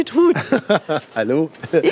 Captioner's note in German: lacht